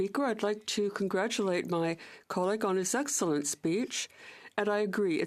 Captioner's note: speaking French